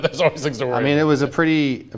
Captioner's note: laughs